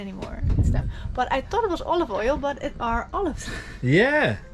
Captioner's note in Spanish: risas